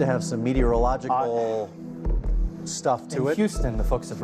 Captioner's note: stammers